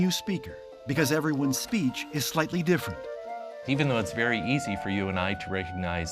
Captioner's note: none